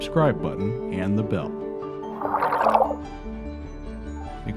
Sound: tail swish

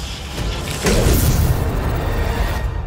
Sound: explodes

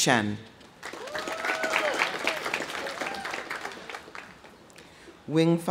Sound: audience applauding; audience cheering

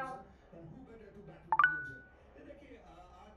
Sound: phone Beep

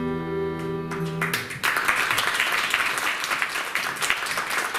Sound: applause

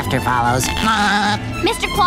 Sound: laughing

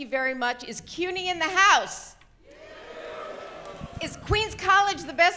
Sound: audience cheers

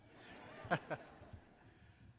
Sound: laughter

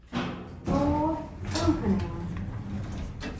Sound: doors Opening

